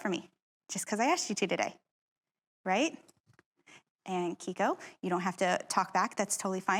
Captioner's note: none